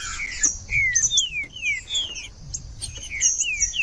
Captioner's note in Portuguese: trinca ferro cantando